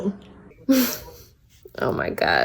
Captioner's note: laughs